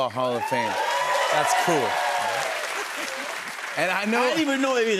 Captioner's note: cheers and applause